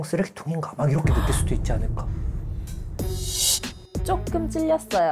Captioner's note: crash sound effect